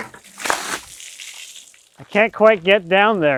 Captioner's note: water splashes